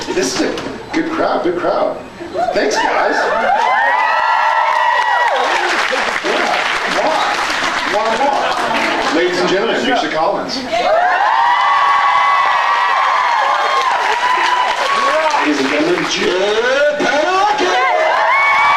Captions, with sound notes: This is a... good crowd, big crowd. Thanks guys. [scattered cheers] [cheers, applauds] Yeah, mwah. Mwah mwah. [applauds] Ladies and gentlemen, Misha Collins. [cheers, applauds] Ladies and gentlemen, Jaaared Padalecki!